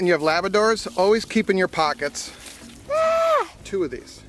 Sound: leaves crunch

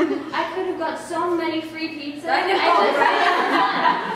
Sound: laughter

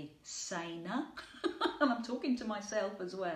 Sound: laughing

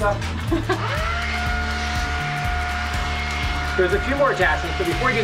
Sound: blower running

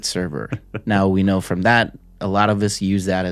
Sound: chuckles

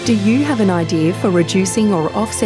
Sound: voiceover

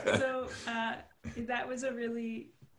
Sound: laughter

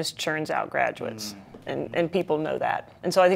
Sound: murmuring

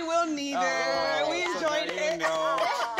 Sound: laughs

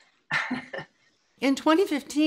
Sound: laughs

